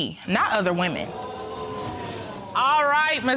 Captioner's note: audience exclaims